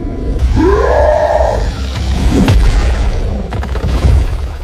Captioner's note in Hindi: कराहने की आवाज़; चीखने की आवाज़